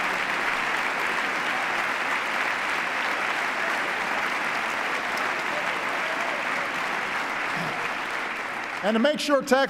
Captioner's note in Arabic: تصفيق